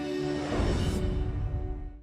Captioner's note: gentle music; air whooshing